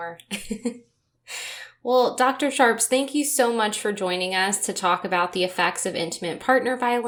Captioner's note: chuckle